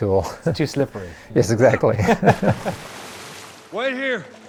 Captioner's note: laughs